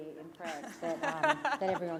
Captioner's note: laughter